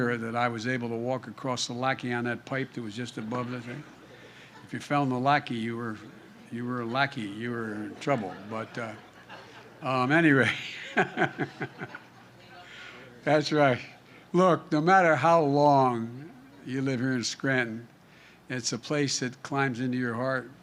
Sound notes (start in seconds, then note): 7.7 laughter; 10.3 laughs